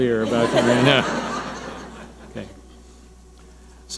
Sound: audience laughing

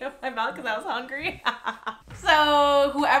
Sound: laughing

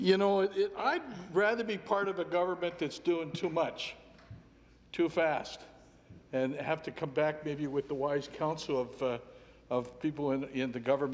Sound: laughter

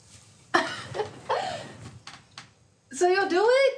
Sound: Alexis laughing

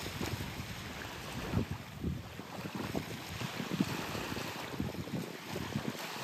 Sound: waves ASMR

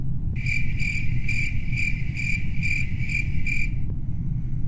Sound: crickets

